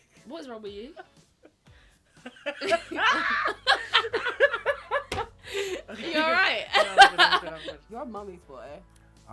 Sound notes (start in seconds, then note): 2.6 laughs